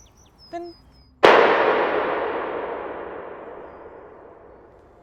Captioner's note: gunshot